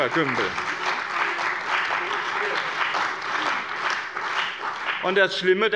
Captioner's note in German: Beifall bei dem BÜNDNIS 90/DIE GRÜNEN und der CDU